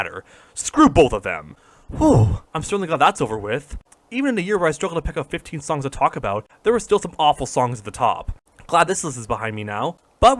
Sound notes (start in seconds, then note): 1.6 breath of relief